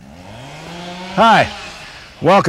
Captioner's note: chainsaw buzzing